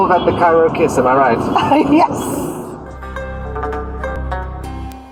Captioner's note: laughs